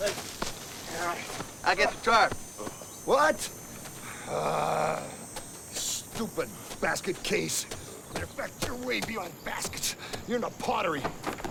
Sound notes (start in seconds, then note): 4.1 groans